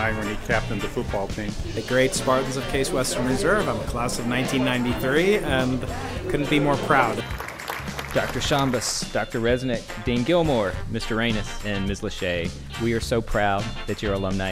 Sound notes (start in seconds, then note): 6.4 applause